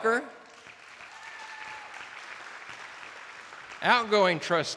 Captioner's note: attendees applauding